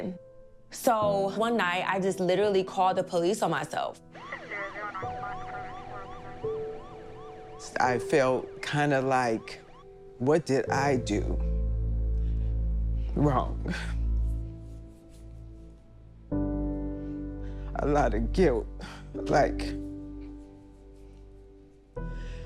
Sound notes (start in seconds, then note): 4.2 siren wailing, indistinct talking on radio